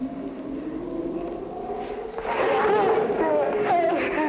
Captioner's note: scream